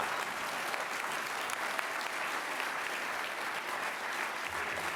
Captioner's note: applause